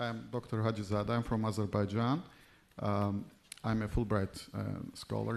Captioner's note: speaking in foreign language